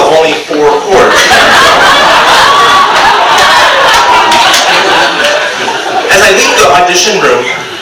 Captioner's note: audience laughs